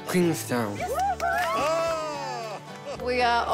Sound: laughs

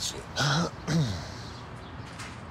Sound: clears throat

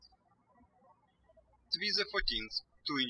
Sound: birds chirping

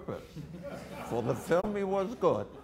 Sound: audience laughter

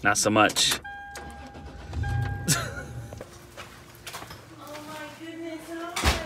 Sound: engine revs; chuckles

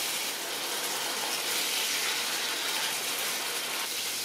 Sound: sizzlin'

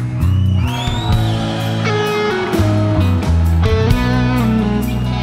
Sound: whistles; cheers

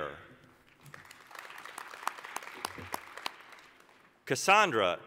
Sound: applause

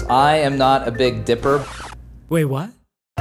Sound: record scratching

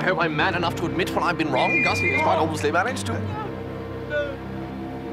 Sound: whistle

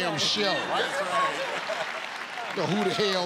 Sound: laughter

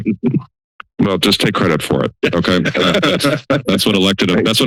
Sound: laughter

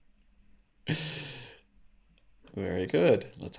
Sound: laughs

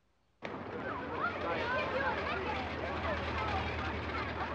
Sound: people chattering

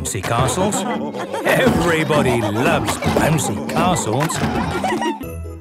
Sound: laughter

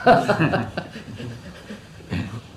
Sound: laughter

